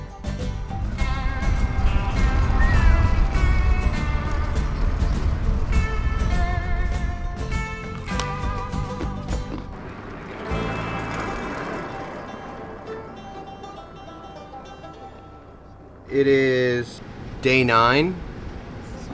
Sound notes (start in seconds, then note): 2.2 whistles; 8.2 carrot crunching; 11.1 banjo music